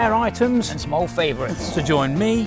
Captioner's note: imitates explosion